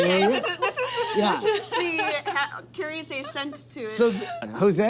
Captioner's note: laughs; murmurs